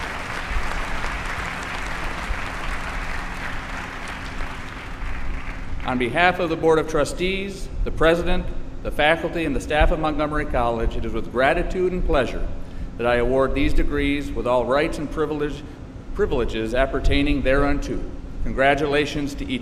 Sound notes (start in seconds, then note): 3.3 applause